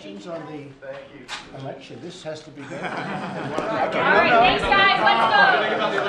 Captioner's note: laughter